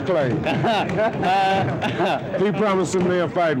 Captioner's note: interviewer laughing